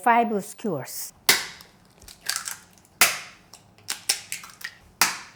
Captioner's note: egg shells cracking